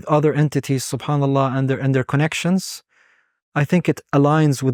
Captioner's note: speaking Arabic